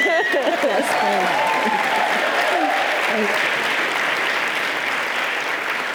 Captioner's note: audience cheering and applauding